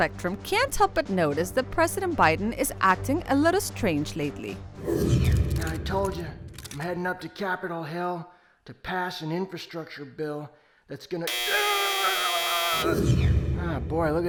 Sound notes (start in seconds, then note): 11.2 loud buzzing; 12.9 Biden screaming